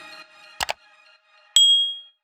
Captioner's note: mouse clicks